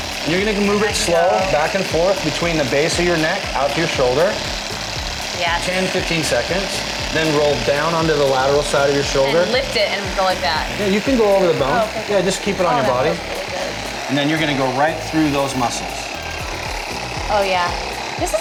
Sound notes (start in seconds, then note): 4.4 whirring sound